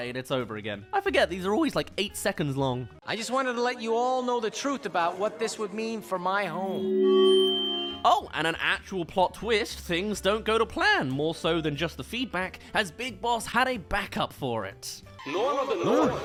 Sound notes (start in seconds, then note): 6.6 feedback